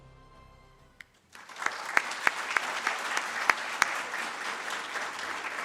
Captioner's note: audience claps